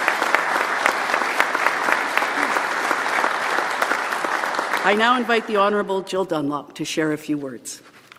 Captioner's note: applause